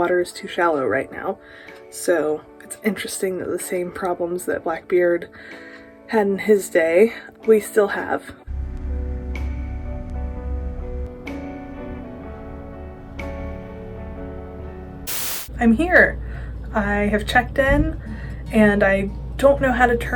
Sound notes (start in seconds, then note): 15.0 static